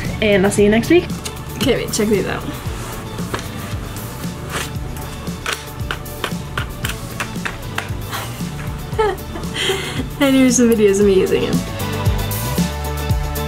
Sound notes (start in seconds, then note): 4.3 upbeat music; 4.3 wheels clacking